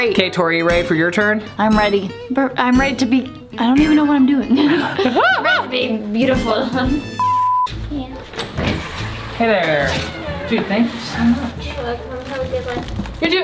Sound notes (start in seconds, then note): 7.4 laughs